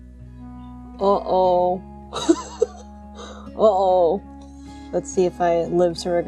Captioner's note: laughs